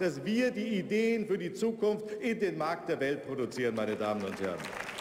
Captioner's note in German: Beifall bei der CDU/CSU